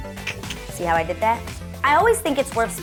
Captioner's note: clicks tongue